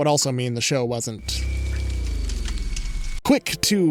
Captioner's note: flames crackling